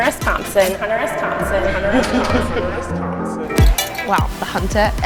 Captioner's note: echoing